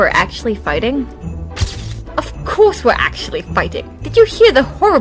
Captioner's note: camera flash